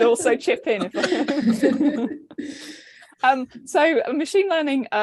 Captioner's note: all laughing